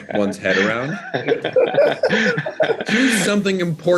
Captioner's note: group laughing